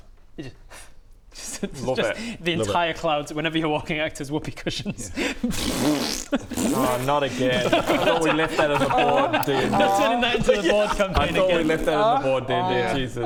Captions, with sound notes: you just *pff* love it the entire clouds whenever you're walking act as whoopee cushions *PFFTTT* *Pftth* oh not again *pffffffp* I thought we left that in the Bored D&D Turning that into the Bored campaign again I thought we left that in the Bored D&D, Jesus